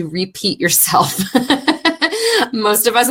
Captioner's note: laughing